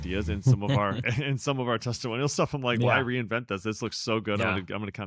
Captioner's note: laughs